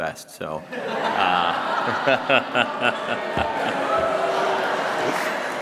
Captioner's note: laughter